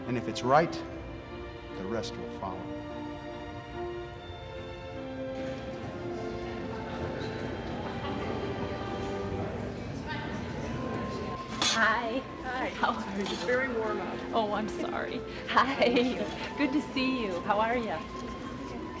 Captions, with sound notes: If it's right, the rest will follow. (light orchestral music) (all chattering) - Hi. - Hi. - How are you? - Very warm out. - Oh I'm sorry. Hi, good to see you, how are you?